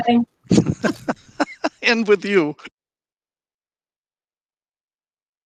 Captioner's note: laughs